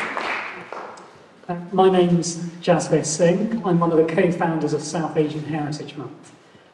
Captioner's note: applause